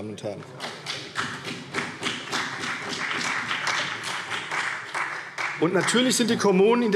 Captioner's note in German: Beifall CDU und BÜNDNIS 90/DIE GRÜNEN